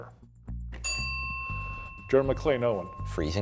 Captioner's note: bell ringing